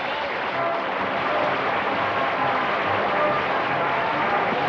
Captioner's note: applause